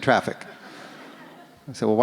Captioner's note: audience laughs